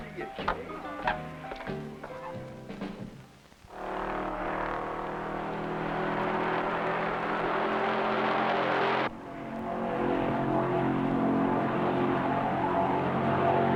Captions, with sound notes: Good to see you Kay. (engine rumbling)